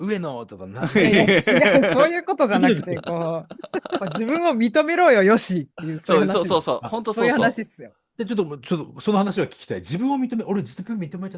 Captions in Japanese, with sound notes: [笑い] そういうことじゃなくて、こう、ま、自分を認めろよ、よしっていう。そういう話。そういう話すよ。 そう。じゃ、ちょっと、ちょっとその話は聞きたい。自分を認め、俺実認めてないかな?